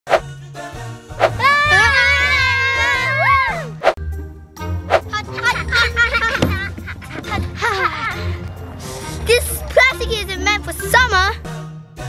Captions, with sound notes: (children yelling) - Hot hot hot hot - Hot hot hot hot This plastic isn't meant for summer.